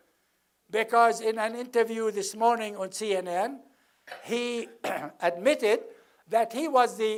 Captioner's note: cough